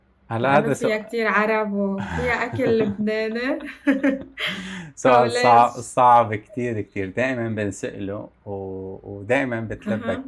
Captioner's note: laughter